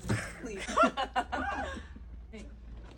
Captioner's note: laughter